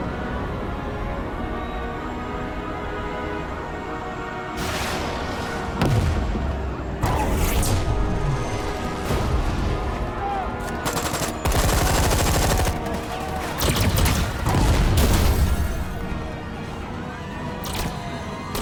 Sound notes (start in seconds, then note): 6.1 loud blasting; 10.3 laser blasting; 10.6 guns banging